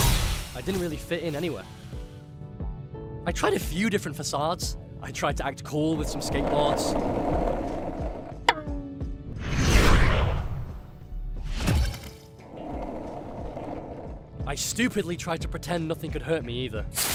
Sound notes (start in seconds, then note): none